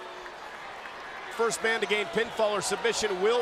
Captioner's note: applause